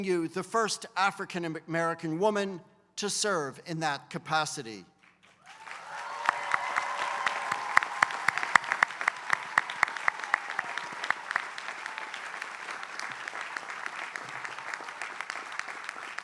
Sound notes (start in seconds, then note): 5.0 applause